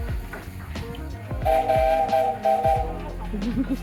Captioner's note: loud whistle